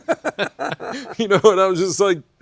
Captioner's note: laughing